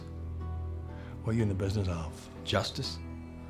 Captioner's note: scottish accent